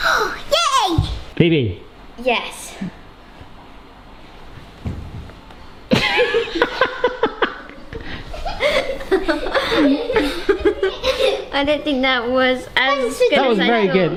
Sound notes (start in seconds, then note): 5.9 all laughing